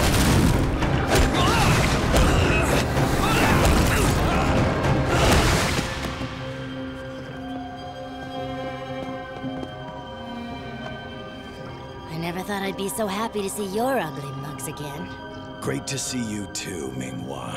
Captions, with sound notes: [groaning] I never thought I'd be so happy to see your ugly mugs again. Great to see you too, Ming-Hua.